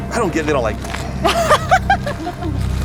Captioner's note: laughing